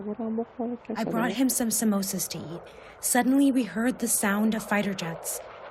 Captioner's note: through translator